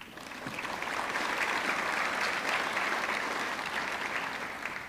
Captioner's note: audience clapping